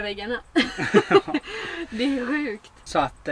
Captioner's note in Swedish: Skratt